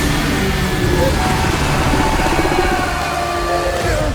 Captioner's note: terrified scream